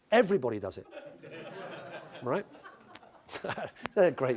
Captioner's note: laugh